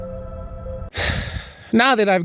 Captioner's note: sigh